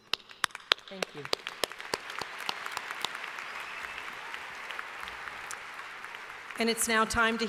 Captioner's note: applause